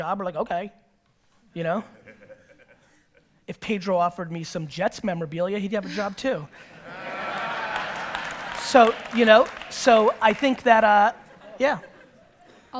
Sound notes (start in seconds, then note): 6.5 audience laughter